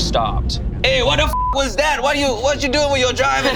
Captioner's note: beep